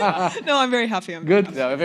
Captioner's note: laughs